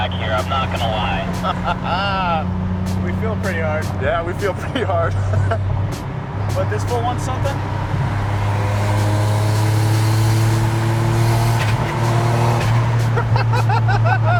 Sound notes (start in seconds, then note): 0.0 beep; 0.0 laughs; 4.3 laughs; 9.3 car engine roars; 9.3 laughing